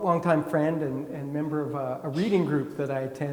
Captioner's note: attendee coughing